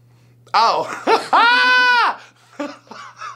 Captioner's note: laughs